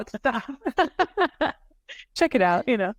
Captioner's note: everybody laughing